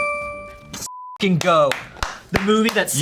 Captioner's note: beep